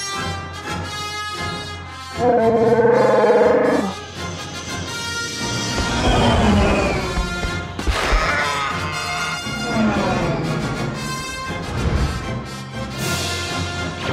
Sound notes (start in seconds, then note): 2.2 roars